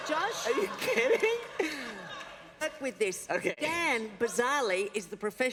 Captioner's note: laughter